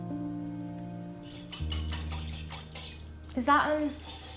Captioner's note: egg beater whirring